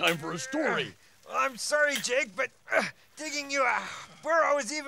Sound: grunts

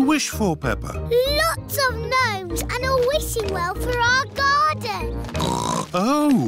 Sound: oinks

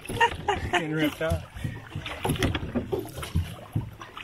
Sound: laughing

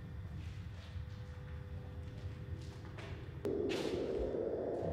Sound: wind blowing softly

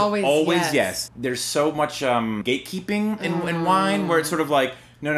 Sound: groan

